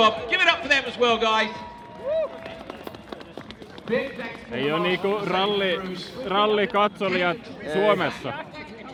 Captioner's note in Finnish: aplodit